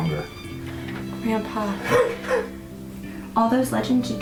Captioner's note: coughing